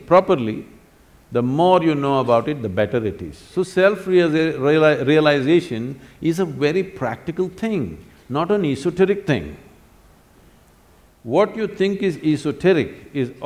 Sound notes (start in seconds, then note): none